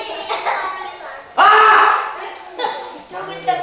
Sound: ki-hap Sound

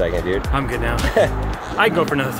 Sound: chuckles

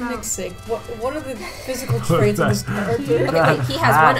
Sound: laughs

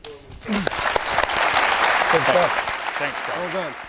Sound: clapping

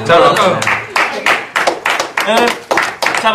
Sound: A self-congratulatory round of applause

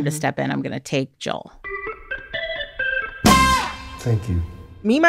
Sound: soundbite of tv show, "the last of us"

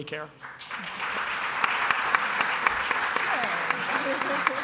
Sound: applause

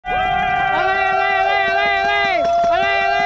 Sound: small crowd cheering

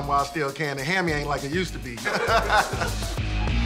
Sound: laughs

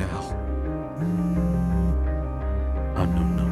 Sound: phone vibrates

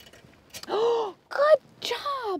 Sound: Claire gasping

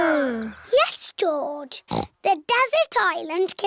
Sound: snorts

